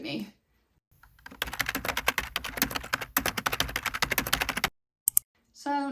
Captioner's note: typing noises